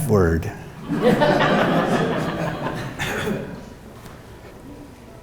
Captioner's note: audience laughing